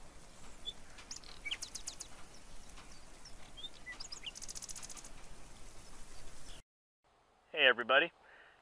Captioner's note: nature Sounds